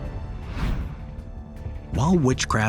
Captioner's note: uncanny music; screen wipe whooshes